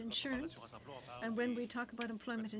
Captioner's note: speaking French